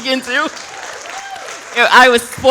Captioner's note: audience applauds